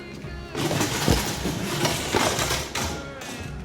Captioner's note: clattering